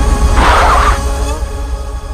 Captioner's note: brakes squeal